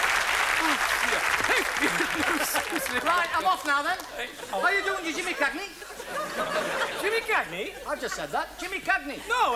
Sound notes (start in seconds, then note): 1.7 singing; 6.9 audience laughs